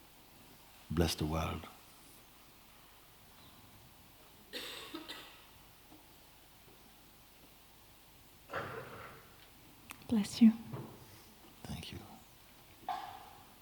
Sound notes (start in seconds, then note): 4.2 silence